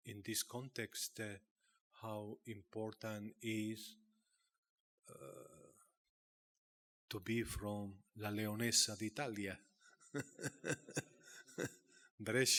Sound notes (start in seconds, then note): 8.3 speaking Italian; 10.1 laughing